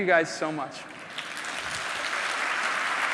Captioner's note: applause